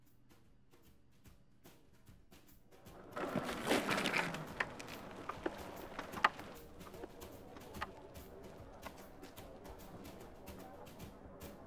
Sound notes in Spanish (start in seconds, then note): 2.9 gente charlando; 3.7 música jazz animada